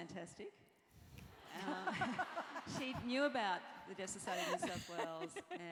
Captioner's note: laugh